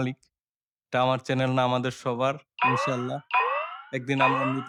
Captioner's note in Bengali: চিৎকার করা